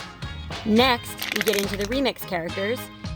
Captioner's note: crumpling sound